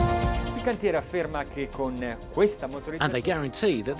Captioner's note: dramatic music; speaking Italian